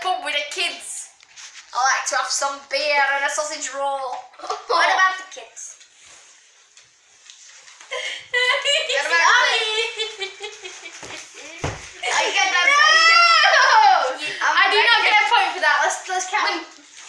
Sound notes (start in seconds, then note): 5.3 laughs